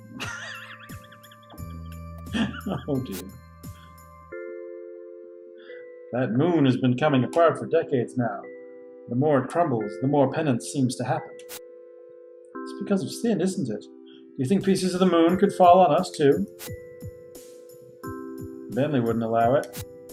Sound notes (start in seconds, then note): 0.2 wheezing laugh; 2.3 laughing